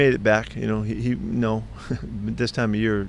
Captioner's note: laughing